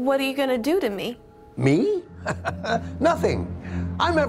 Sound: laughs

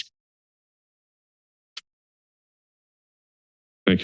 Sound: silence

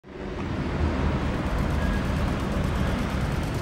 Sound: traffic noise

